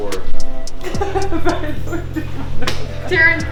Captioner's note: laughing and crying